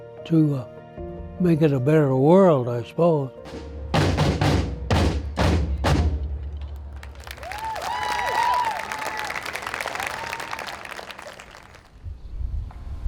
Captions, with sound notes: to make it a better world," I suppose. (upbeat drumming music) (audience cheers)